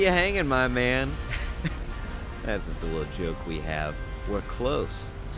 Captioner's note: laughs